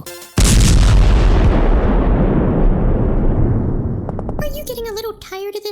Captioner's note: boom